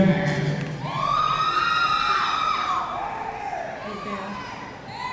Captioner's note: audience cheering